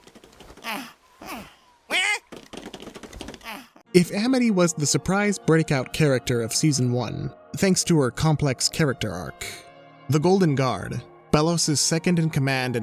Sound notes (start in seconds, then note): 0.6 whimpers; 0.6 confused shout; 2.5 whimpers